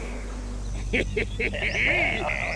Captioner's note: laughing hysterically